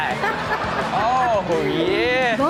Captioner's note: audience laughs